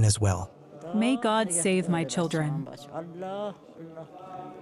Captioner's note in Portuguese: falando em hebraico